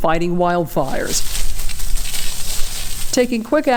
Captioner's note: water sprays